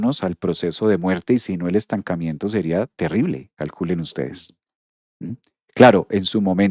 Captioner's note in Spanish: carraspeo